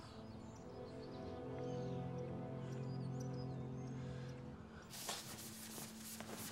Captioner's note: birds chirping; slow somber music